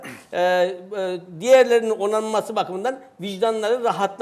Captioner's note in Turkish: boğazını temizler